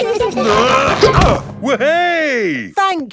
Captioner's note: all giggling; grunting